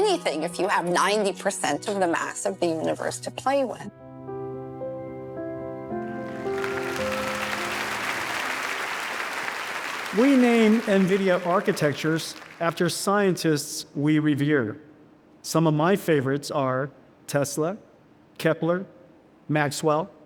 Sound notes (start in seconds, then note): 4.6 soft music; 6.0 audience applauding